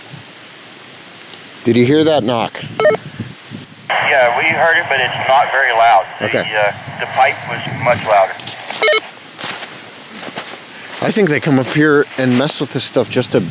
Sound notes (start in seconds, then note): 8.9 walkie talkie bleeps; 9.3 leaves crunching